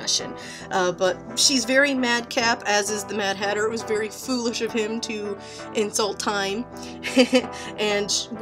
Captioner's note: laughs